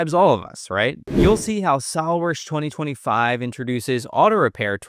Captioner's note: air whooshing